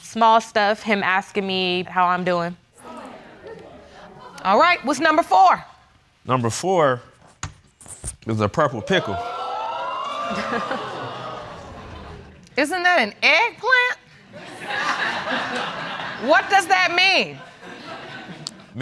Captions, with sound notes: Small stuff. Him asking me how I'm doing. All right. What's number four? Number four is the purple pickle. (AUDIENCE EXCLAIMS) Isn't that an eggplant? (AUDIENCE LAUGHING) What does that mean?